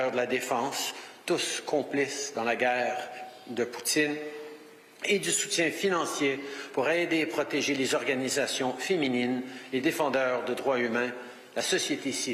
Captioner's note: speaking French